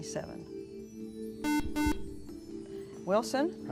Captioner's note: beep